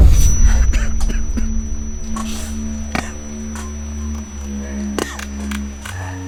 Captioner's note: high pitched ringing; coughing